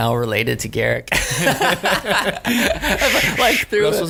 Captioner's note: laughing